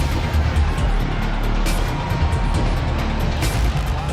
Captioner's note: crowd cheering